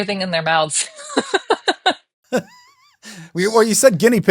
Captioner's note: both laughing